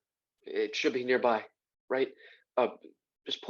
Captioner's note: silence